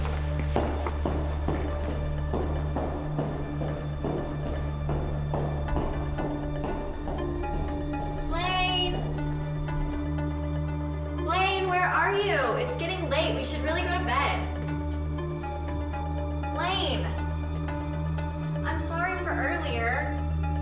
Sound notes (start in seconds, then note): 1.6 suspenseful music; 5.1 footsteps tapping; 20.4 suspenseful music